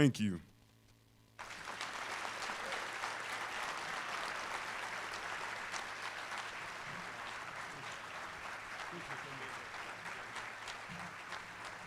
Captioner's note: applause